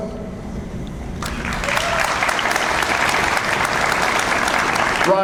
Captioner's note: audience applauds